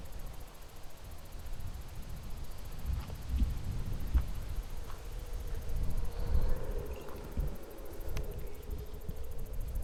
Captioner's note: wind blowing